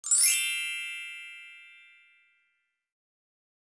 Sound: chime rings

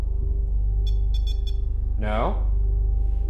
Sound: REM-Pod beeps

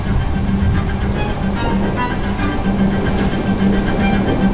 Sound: Andromeda laughs incredulously; dramatic tense music

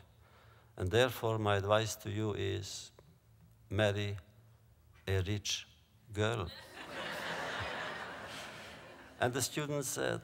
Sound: laughter

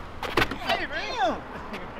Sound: feet scuffling

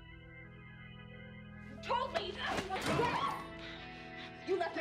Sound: Rowena screams

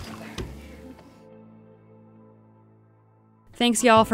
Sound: water splashes

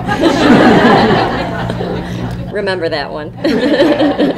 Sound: laughter; laughter

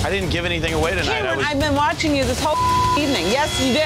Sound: beep

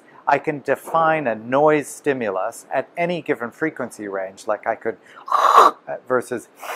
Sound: high noise

